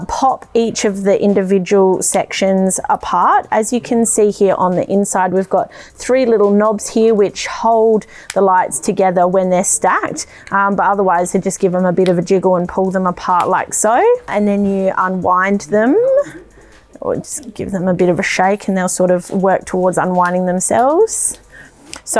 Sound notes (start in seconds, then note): 8.2 lights pop together; 10.5 lights pop out